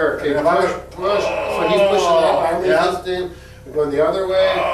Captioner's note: loud grunt